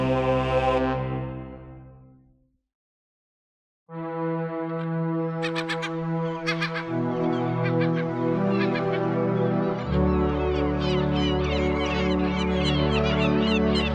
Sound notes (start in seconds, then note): 3.9 calm music; 5.3 birds cawing